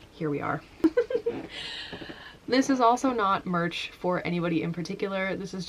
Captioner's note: laughing